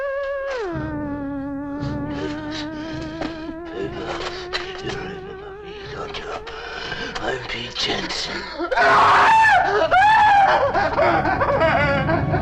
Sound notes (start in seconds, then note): 8.7 Papers screaming